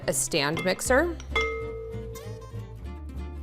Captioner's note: bowl clanks; upbeat music